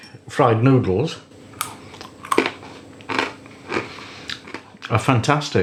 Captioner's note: crunch crunch crunch